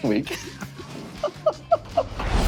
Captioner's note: both laughing